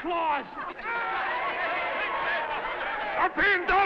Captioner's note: crowd laughing